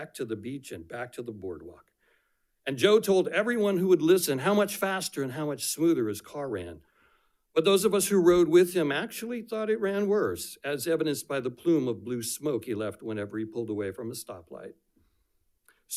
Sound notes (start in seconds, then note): none